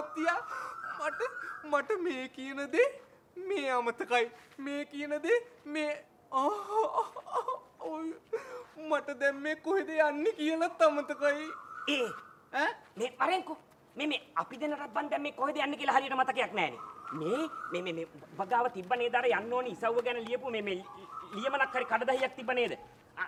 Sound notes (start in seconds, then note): 6.4 crying